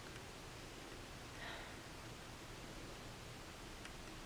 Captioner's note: sighs